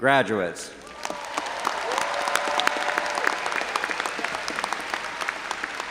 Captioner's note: audience applauding